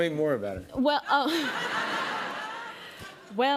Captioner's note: laughter